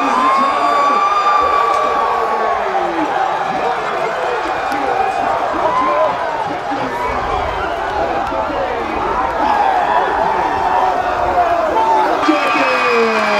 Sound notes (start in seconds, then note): 3.5 shouting